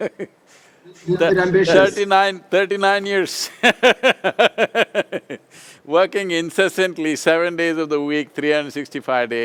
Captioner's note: laughs